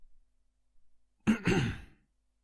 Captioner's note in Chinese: 咳咳